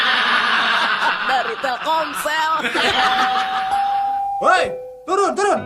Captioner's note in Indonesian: tertawa